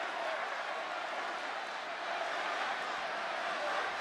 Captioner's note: applause